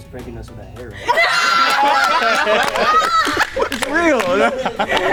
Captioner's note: clapping and laughing